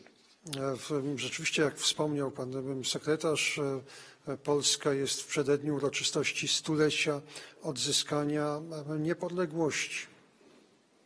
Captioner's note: speaking polish